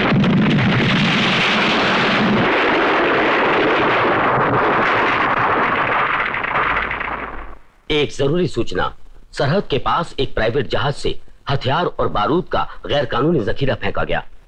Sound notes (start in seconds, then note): 7.8 voice Over T.V